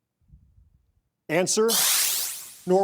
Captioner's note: electric shuttering